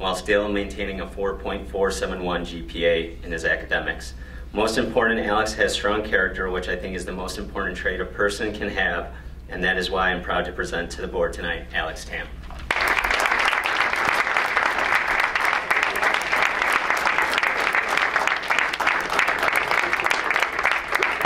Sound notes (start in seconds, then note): 12.6 crowd applauds